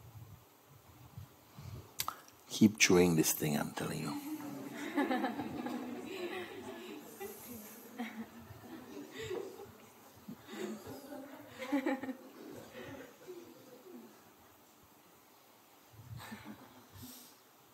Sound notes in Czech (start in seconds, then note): 5.9 smích